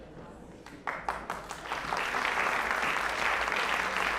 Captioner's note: applause